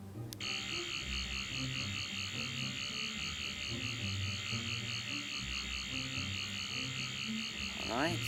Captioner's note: Sonic screwdriver buzzes